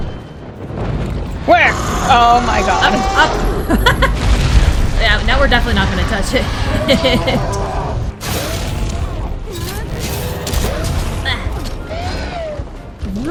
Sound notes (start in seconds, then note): 3.2 laughs; 6.6 chuckles maniacally; 8.4 slap; 10.5 bonk